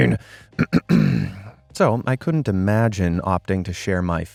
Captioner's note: clears throat